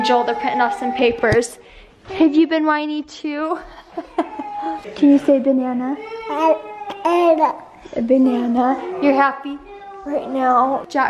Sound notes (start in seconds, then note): 3.6 laughs; 6.3 baby talk